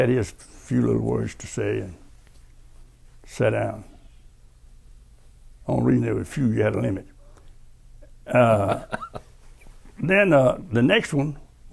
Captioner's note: laughter